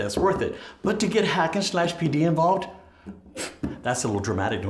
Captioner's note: scoffs